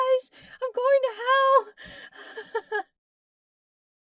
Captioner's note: laughs